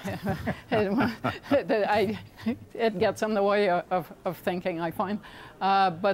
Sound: laughter

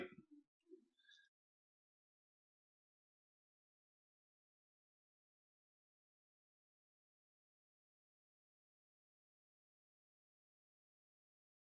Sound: silence

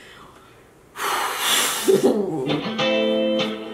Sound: laughs; exhales; upbeat pop music

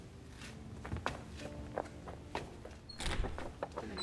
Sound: sound of footsteps; door closing sound

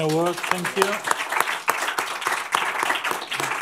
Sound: applause

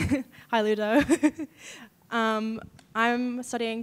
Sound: chuckling

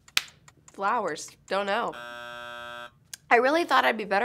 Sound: buzzer

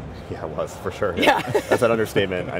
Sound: laughs

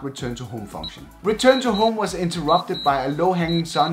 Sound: program beeps

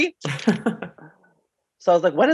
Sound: laughs

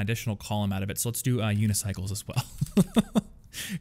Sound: laughs

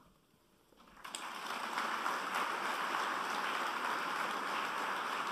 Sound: applause

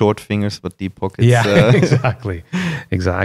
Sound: laughter

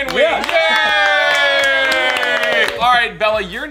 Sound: cheering

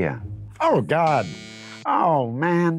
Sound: buzzer sounding

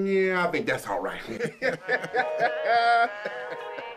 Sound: both laughing; R&B music begins

